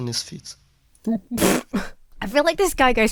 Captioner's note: splutters